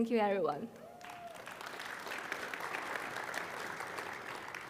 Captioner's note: crowd applauding